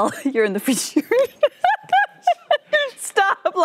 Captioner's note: laughter